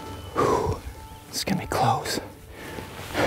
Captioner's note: exhales